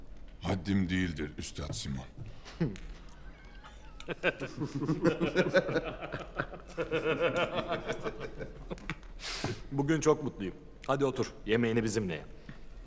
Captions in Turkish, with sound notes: Haddim değildir Üstat Simon. (Gülme sesleri) Bugün çok mutluyum. Hadi otur. Yemeğini bizimle ye.